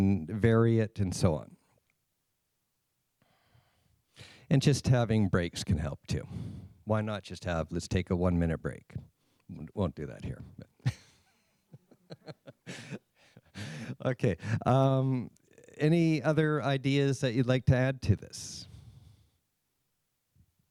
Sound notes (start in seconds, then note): 11.7 laughs